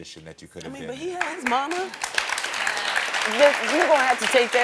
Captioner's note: audience applauding